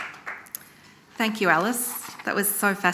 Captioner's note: audience applauding